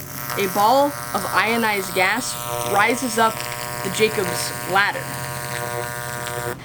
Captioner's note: electricity noises